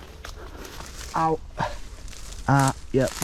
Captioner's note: in pain